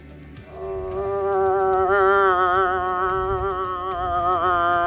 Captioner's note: moose calling